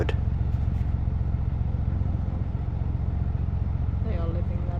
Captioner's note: narrowboat engine sounds